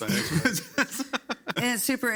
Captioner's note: people laugh